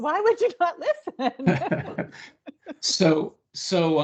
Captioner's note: laughing